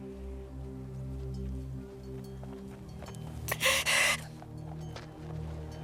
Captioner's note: crying